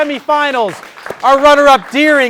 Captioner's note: audience applauding